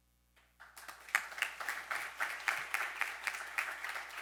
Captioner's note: audience applauding